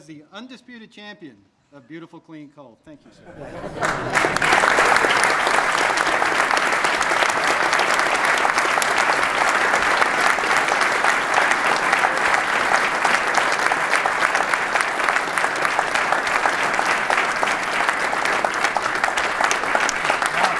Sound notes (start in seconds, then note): 4.3 applause